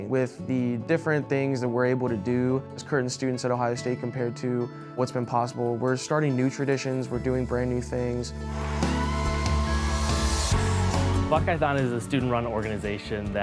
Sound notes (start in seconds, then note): 8.4 audience cheers